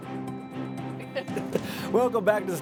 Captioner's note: laughs